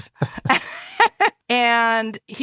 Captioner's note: laughing